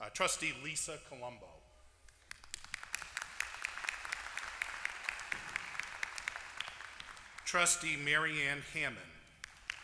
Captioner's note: applause